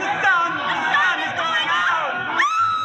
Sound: screaming

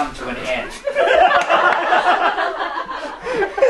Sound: laughter

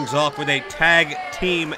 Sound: bell rings

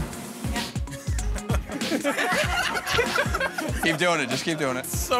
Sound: laughter

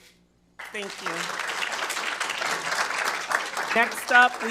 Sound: attendees applauding

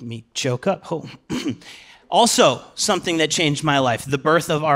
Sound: clears throat

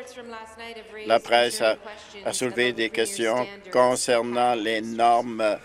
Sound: applause

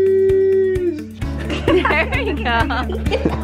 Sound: laughing

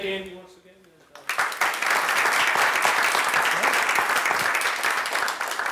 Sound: audience applauds

